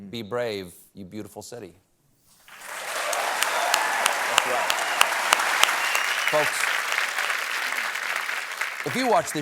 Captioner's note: applause